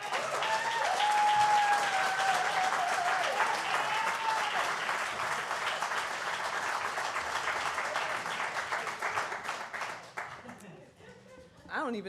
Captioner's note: applause